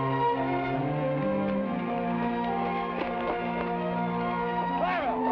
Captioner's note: footsteps patter